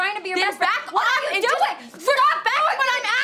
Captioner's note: Ashley shouting